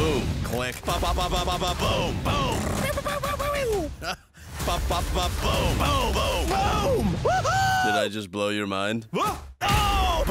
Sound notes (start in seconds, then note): 4.5 sound effects